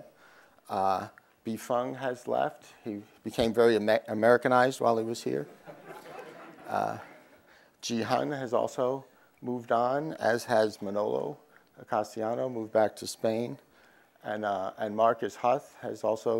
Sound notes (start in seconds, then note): 5.4 crowd laughs